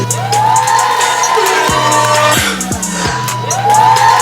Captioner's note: crowd cheering